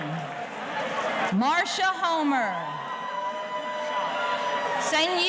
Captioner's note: audience cheering